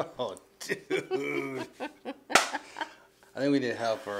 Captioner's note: laughs